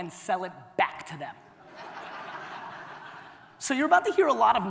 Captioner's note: audience laughter